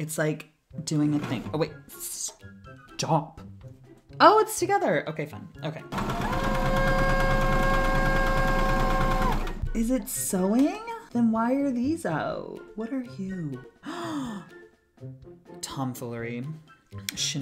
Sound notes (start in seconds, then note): 6.4 screams; 13.8 gasp